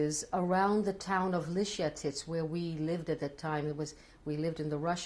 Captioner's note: non-english